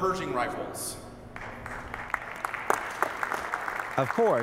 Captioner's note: audience applauding